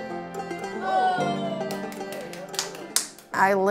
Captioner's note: plucky music; family cheering and clapping